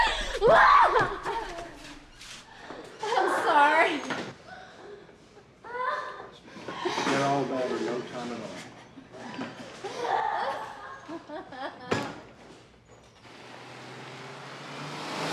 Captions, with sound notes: Mom! I'm sorry. Feel all better in no time at all. [crying]